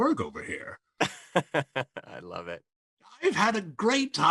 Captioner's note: laughs